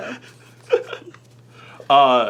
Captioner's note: laughing